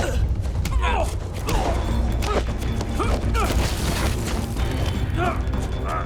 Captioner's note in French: Grognements